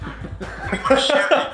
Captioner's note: laughs